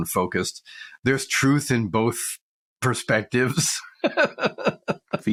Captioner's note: laughs